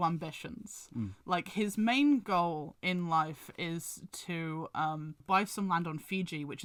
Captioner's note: hums